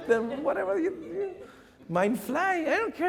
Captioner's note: chuckles